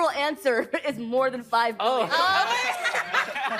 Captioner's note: all laughing